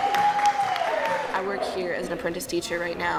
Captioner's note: crowd cheering